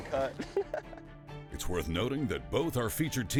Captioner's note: laughing